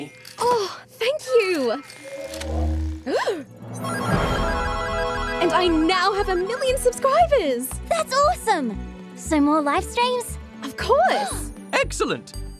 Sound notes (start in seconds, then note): 3.2 gasps